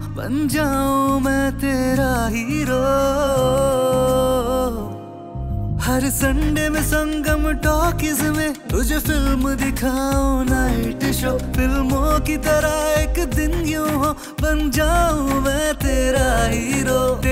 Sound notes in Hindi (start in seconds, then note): none